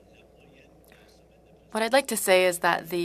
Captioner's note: speaking french